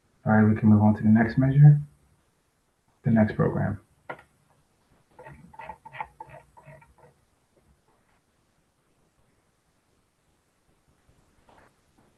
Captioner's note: pause